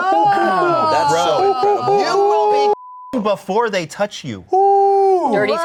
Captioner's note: beep